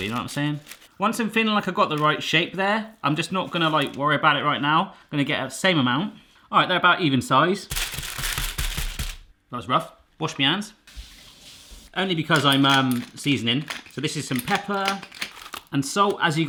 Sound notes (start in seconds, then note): 7.7 pounding and paper crinkling; 10.9 water running